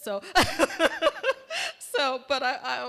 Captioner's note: laughter